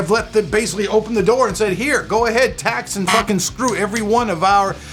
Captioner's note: buzzing